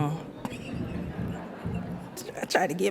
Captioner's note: laughs; audience laughs